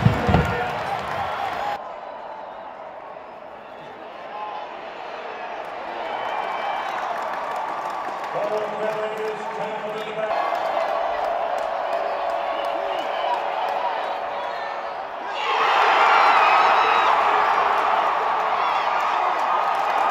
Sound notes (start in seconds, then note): 2.1 crowd noise; 16.0 cheering